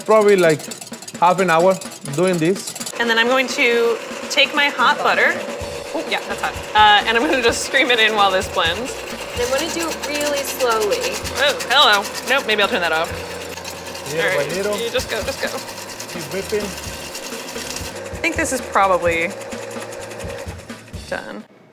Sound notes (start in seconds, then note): 13.5 whisking eggs; 16.0 whisking eggs